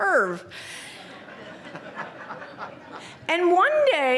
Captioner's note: laughter